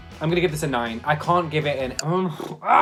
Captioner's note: grunts